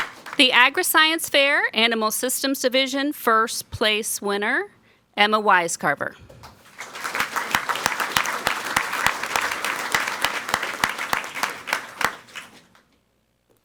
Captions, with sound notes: The Agriscience Fair Animal Systems Division first place winner, Emma Wisecarver. (people clapping)